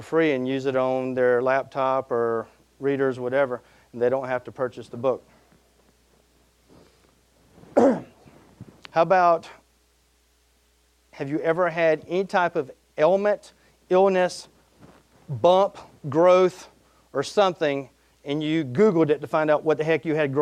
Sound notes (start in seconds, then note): 7.7 coughing